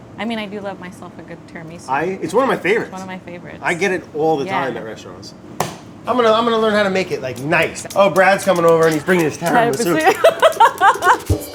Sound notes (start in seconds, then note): 5.6 smack; 10.0 laughs; 11.3 upbeat drum music